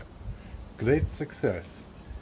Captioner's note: Borat voice